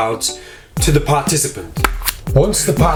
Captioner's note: cards slap